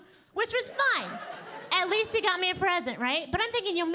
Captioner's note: audience laughing